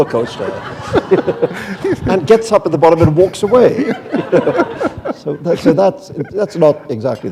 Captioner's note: laughter